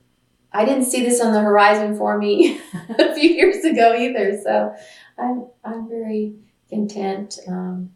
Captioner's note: laughs